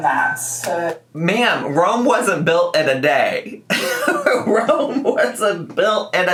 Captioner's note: laughs